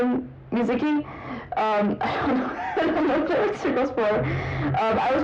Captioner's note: said while laughing